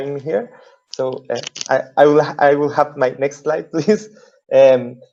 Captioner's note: laughing